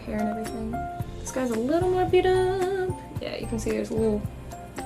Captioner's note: singsong